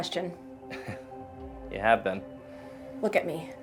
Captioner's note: chuckles